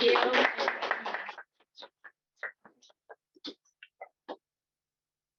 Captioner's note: applause